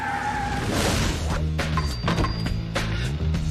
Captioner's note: clanking